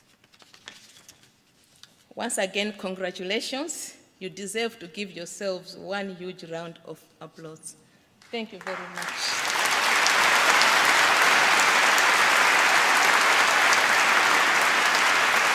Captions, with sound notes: Once again, congratulations. You deserve to give yourselves one huge round of applause. Thank you very much. (APPLAUSE)